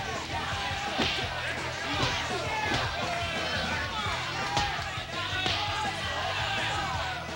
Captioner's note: crowd shouting; fists pounding